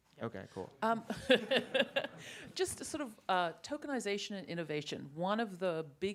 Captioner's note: laughs